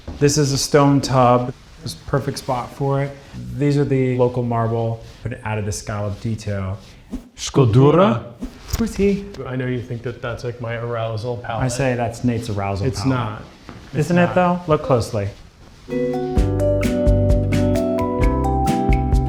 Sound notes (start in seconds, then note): 7.4 both speaks in a foreign language; 15.9 upbeat jazz music